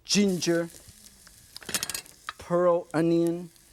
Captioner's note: oil sizzles